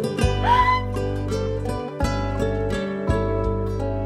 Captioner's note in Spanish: Grito ahogado